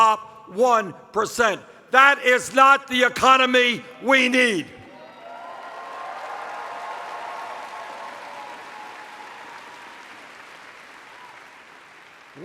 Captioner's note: cheers